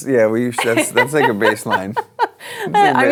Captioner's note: laughter